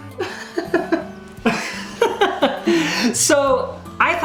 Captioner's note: laughing